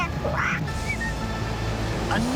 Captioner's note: whistles